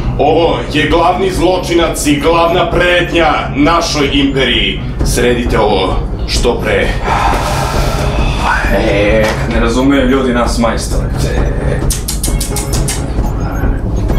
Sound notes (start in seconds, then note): 6.9 sighs; 11.5 chuckles